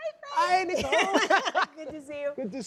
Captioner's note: laughter